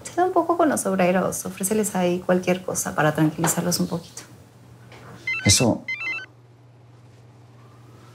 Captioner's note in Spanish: Suena el celular